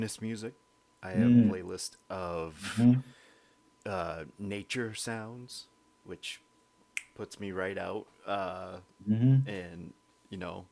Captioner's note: snaps fingers